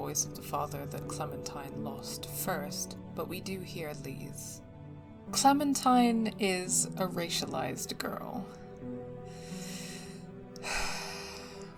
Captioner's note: deep sigh